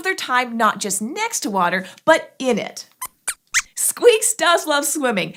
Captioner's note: squeaks squeaks